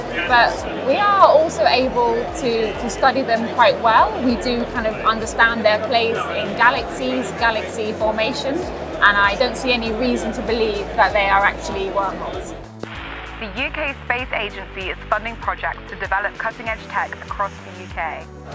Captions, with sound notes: But we are also able to study them quite well. We do kind of understand their place in galaxies, galaxy formation, and I don't see any reason to believe that they are actually wormholes. [voice over radio static] The UK Space Agency is funding projects to develop cutting-edge tech across the UK?